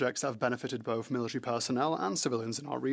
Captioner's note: speaking French